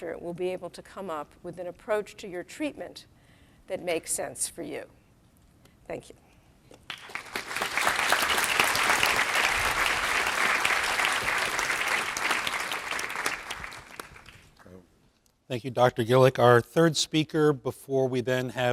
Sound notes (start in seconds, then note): 6.8 applause